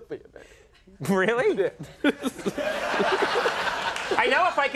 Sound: audience laughs

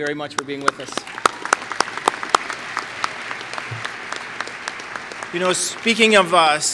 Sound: applause

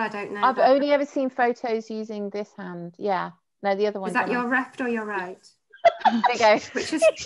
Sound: laughing

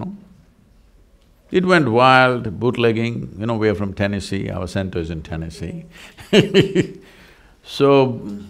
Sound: laughs

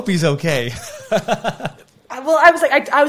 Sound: chuckles

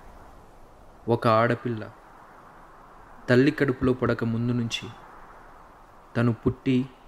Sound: voice-over

